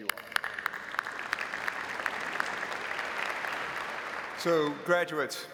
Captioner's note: audience applauding